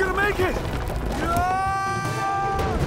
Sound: screaming

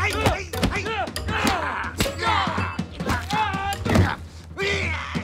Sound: both grunt; groans; laughs, grunts

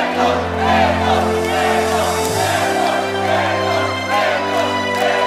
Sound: crowd

